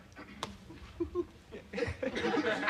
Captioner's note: chuckles